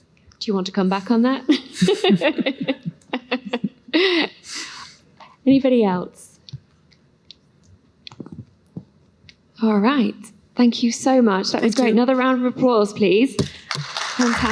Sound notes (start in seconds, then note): 1.5 laughter